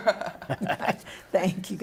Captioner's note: laughter